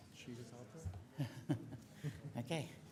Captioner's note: laughs